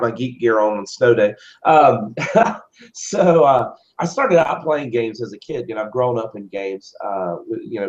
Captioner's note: laugh